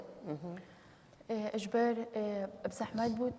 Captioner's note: speaking kurdish